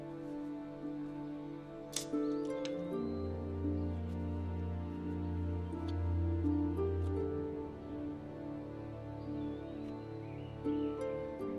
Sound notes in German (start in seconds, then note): 1.6 Klappern